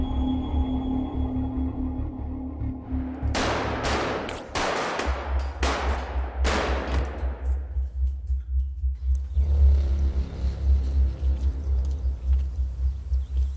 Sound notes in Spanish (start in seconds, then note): 3.3 Disparos